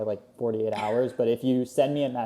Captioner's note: laughs